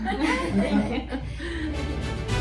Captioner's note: laughter; bright music